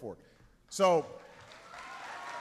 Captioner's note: applause